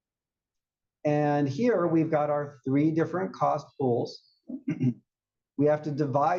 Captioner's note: cough